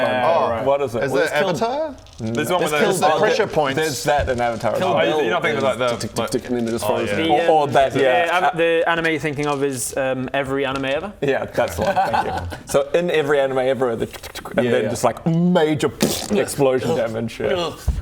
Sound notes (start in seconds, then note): 13.9 ch-chk-ch-chk; 16.0 pbrrpt